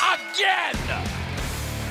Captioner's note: bell ringing